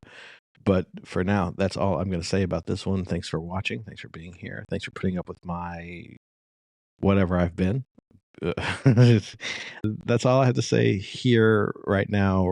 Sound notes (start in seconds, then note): 8.4 laughs